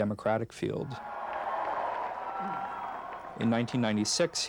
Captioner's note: cheering